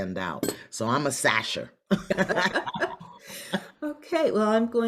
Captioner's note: both laugh